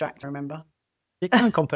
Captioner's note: laughs